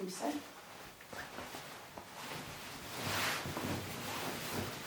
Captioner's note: fabric rustling